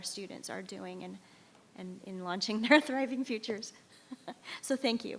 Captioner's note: laughs